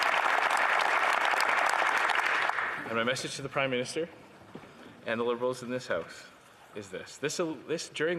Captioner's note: applause